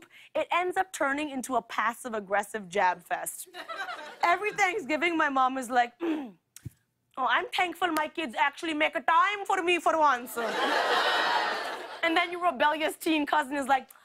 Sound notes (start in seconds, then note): 6.0 clears throat